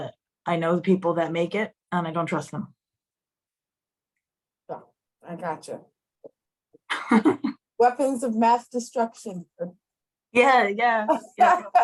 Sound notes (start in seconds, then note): 6.9 laughter